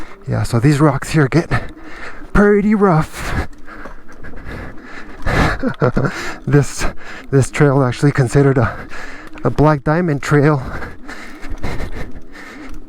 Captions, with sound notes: Yeah, so these rocks here are getting pretty rough. [Chuckle] This, this trail is actually considered a, a black diamond trail.